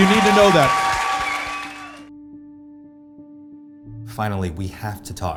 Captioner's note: audience cheering